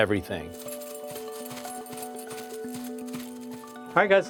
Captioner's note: footsteps running